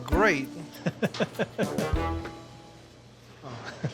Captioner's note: chuckling